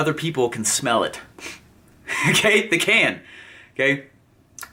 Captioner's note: sniffs